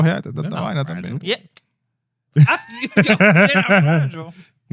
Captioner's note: laughing; speaking In Foreign Language